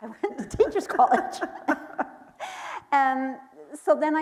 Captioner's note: laughing